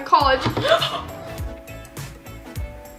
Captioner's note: gasps